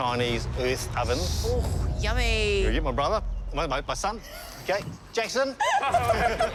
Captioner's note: laughter